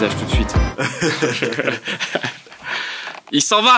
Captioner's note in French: rire